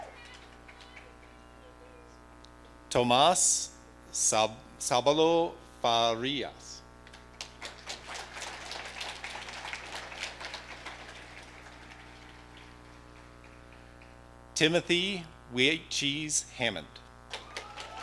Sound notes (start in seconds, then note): 7.4 audience applauding